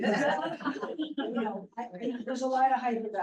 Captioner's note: laughter